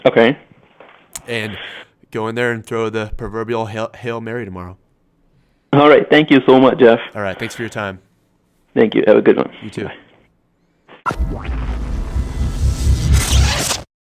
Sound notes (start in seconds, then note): 11.1 electronic whoosh